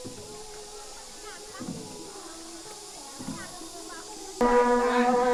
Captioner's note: crickets chirping; traditional instrumental music